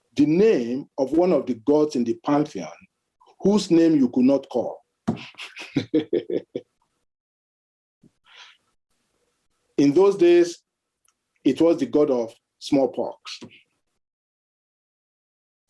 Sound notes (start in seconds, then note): 5.1 laughs